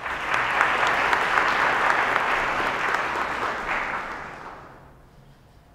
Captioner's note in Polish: oklaski